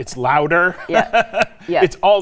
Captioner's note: laughing